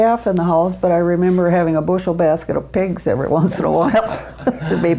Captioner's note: laughs